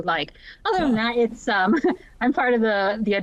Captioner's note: chuckles